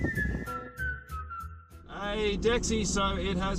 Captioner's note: whistling